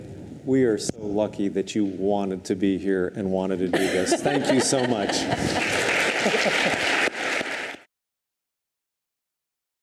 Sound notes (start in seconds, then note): 3.7 laughs; 4.5 audience applauds